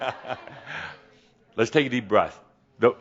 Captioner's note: Adamus chuckles as more people raise their hands